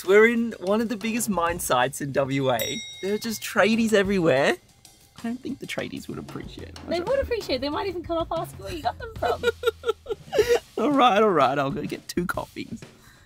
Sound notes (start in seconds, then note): 2.5 dinging; 8.8 laughs